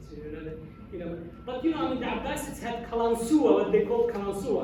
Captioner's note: non english